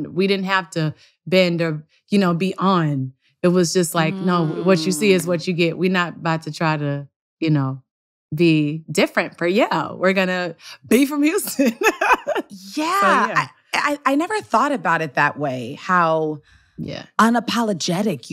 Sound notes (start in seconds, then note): 13.0 laughs